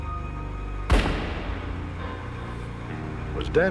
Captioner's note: gun firing